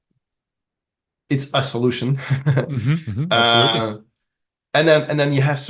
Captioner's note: chuckles